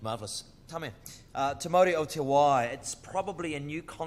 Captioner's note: speaks in foreign language